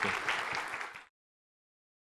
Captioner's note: applause